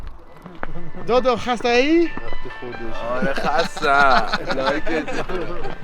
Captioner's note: speaks in foreign language